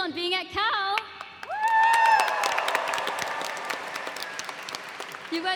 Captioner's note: cheers and applause